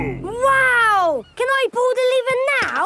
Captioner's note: none